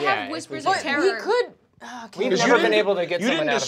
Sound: sighs

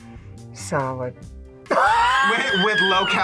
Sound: laughs

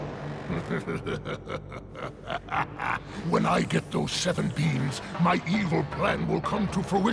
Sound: evil laughing

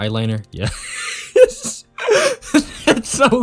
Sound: long Wheeze

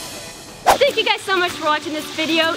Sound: whooshing

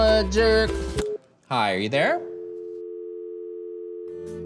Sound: dial Ring

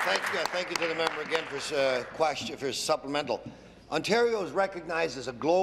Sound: applause

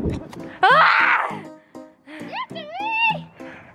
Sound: yelling

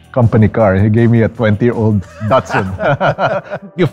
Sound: laughs

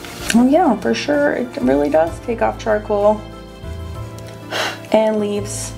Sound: blows

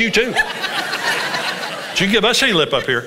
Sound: congregation laughs

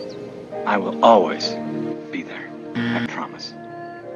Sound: buzzer rings

